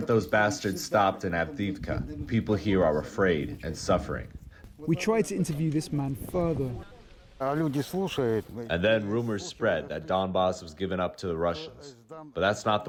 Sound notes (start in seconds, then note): 8.8 through translator